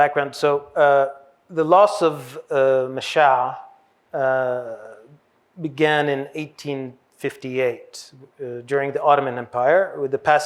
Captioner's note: hebrew